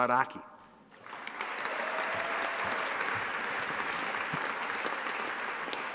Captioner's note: audience applauding and cheering